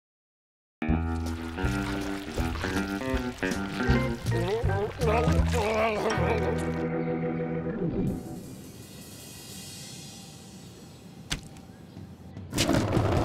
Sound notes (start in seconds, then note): 5.2 gurgling